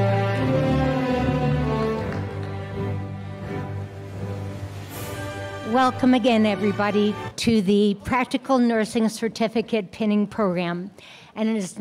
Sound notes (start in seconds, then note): 2.0 applause